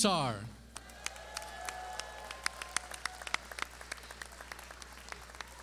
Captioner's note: clapping